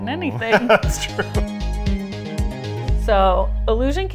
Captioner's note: laughing